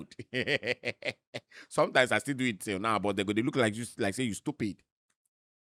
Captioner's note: chuckles